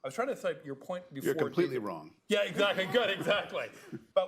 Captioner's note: laughter